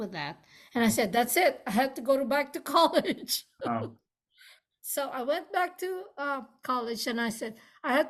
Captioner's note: laughs